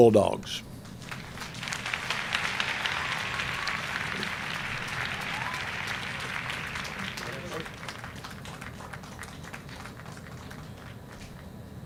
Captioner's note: applause